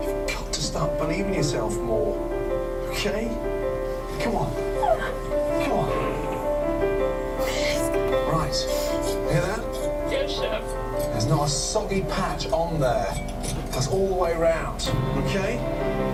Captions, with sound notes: You’ve got to start believing in yourself more. Okay? Come on. Come on. [Woman crying] Alright. [Scraping] Hear that? >> Yes, Chef. There’s not a soggy patch on there. That’s all the way around. Okay?